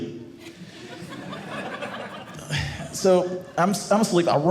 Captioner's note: audience laughing